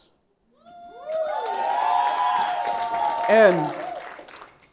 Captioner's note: crowd cheering